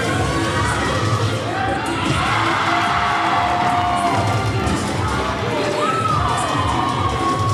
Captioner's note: cheer music continues; audience cheering